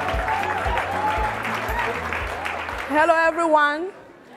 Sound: audience cheering and laughing

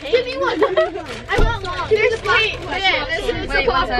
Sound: girls chattering

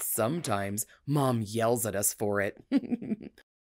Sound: laughs

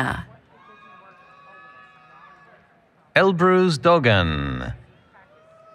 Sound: applause, Cheering

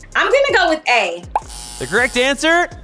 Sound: buzzer

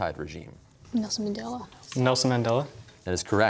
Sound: quietly

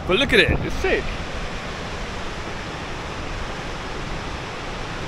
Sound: waves crashing

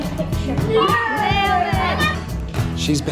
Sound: kids exclaiming

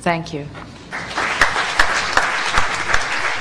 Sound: applause

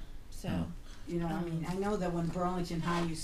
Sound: voiceover

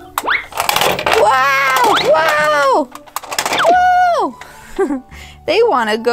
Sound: laughs

